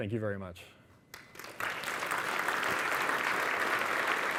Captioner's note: audience applauding